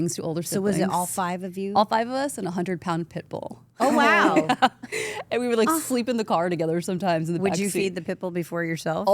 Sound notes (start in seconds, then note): 3.9 laughs